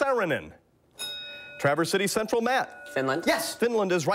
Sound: bell rings

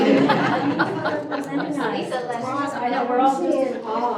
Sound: group laughs

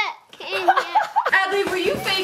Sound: dad laughs

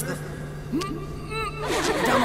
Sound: laughter

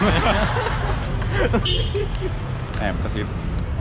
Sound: laughing out loud

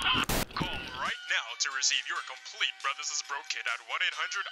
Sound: BIB KIT infomercial playing on TV

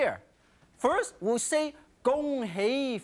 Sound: in foreign language

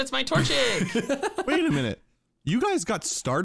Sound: laughing

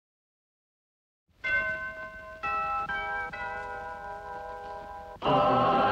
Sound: door bell rings

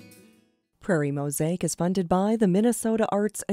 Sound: voiceover

